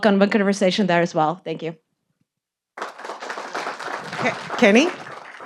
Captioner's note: audience applauding